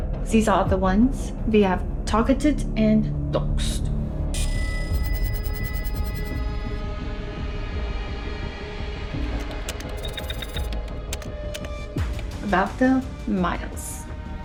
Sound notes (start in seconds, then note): 4.4 computer chimes; 6.7 slow dramatic music continues; 9.3 keyboard clacking